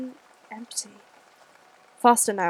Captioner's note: fx: rain fades out